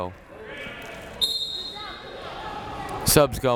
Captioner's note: whistle tweeting